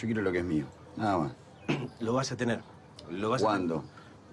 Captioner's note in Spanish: carraspea